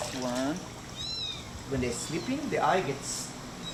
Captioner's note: kitten mews